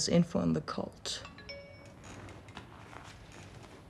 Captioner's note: phone chimes